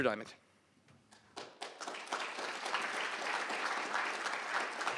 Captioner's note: applause